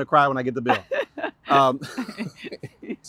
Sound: laughter

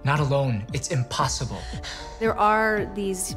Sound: gasping

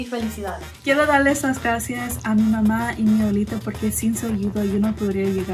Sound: speaks in foreign language

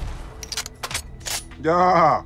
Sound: gun Reloading

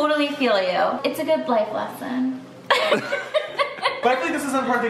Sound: laughs

